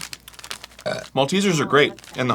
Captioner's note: burps for the monarchy